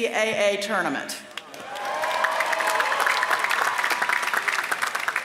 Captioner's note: applause